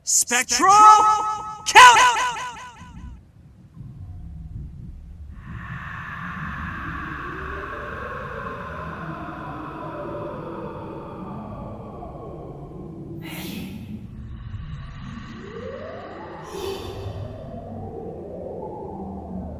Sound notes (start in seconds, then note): 3.8 more magic + spooky ghost noises